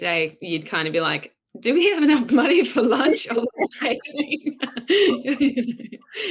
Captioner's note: laughs